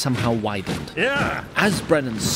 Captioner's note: cry of angry alarm